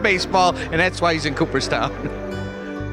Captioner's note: laughs